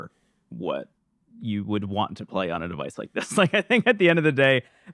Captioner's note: laughs